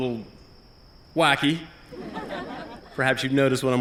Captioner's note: laughter